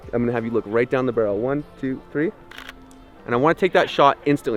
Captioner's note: camera snaps picture